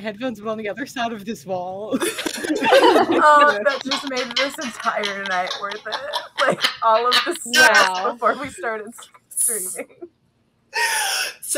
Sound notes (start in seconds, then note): 2.3 laughter; 5.6 laughter continues